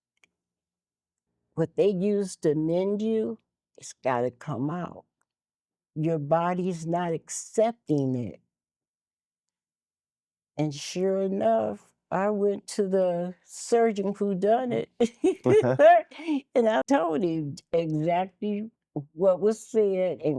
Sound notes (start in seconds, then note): 15.4 laughing